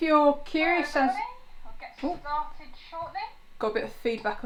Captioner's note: computer video sound